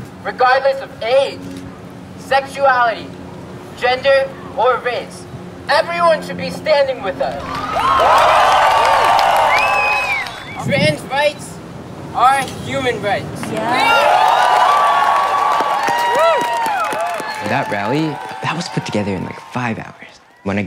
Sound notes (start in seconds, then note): 7.4 cheers and applause; 13.4 cheers and applause; 13.4 cheers and applause continue